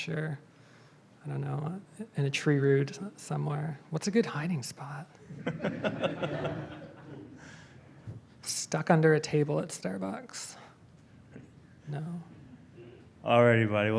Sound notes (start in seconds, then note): 5.3 audience laughs